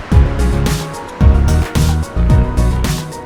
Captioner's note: heartbeat